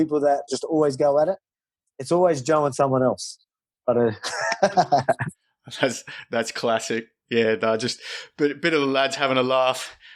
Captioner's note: chuckles